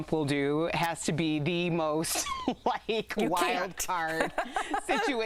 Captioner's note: laughter